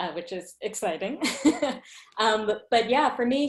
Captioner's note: laughs